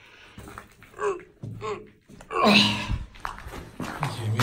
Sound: straining noises

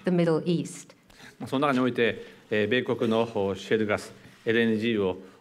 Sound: speaking japanese

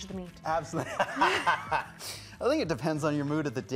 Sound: laughing

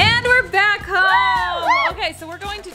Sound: cheering

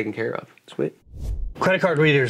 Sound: air swooshing

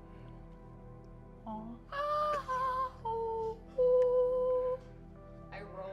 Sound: high-pitch humming

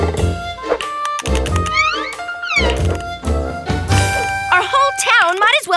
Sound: clicking

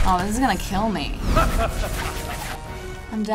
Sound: Flash laughs diabolically

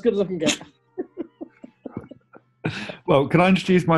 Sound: giggling

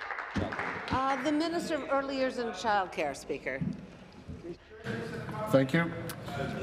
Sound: applause

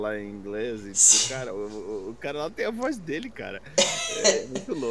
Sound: English voice

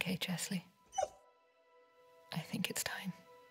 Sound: cry

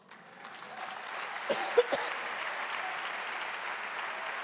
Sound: audience applauding

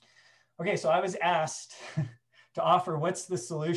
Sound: chuckles

